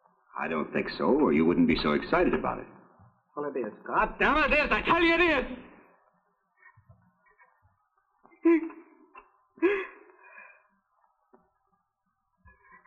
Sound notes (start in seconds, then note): 8.4 crying